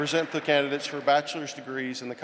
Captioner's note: applause